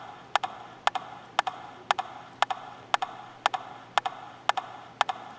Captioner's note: rhythmic tapping